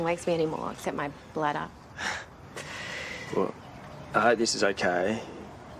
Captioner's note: laughs